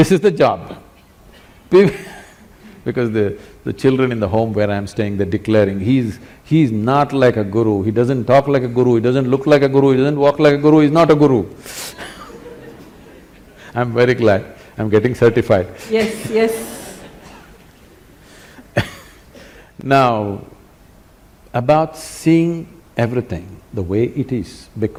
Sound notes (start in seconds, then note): 12.0 laughter; 15.8 laughter; 20.3 laughs